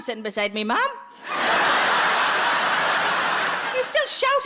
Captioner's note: audience laughs